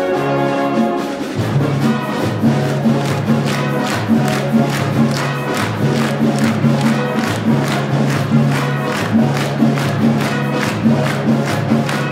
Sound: upbeat Latin music; clapping

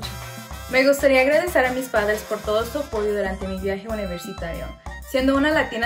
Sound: speaks in foreign language

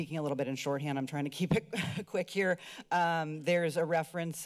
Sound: giggles

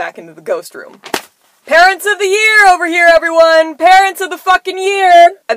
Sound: slap

